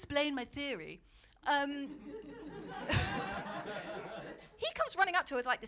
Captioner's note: audience laughing